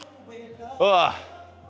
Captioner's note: grunts